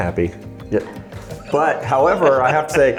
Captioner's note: laughing